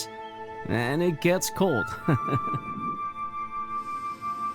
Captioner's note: chuckles